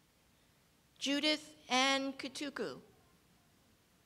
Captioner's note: none